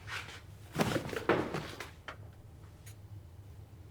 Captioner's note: body thuds